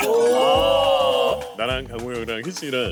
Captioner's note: confident